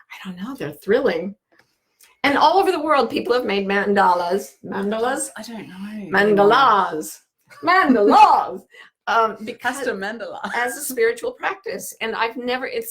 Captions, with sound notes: I don't know, they're thrilling. And all over the world, people have made mandalas. Mandalas? - I don't know. - Mandalas! Mandalas! (laughing) - Mandala. - As a spiritual practice.